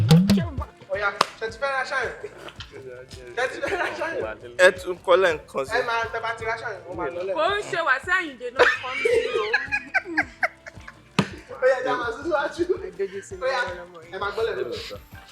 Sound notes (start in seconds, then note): 8.6 everyone laughs